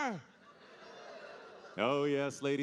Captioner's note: audience laughing